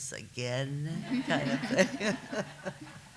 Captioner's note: laughter